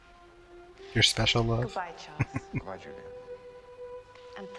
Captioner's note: chuckling